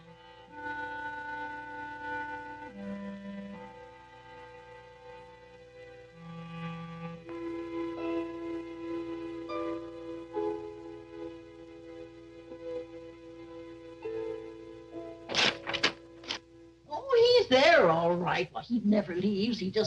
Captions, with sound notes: (paper ripping) Oh, he's there, all right, but he never leaves.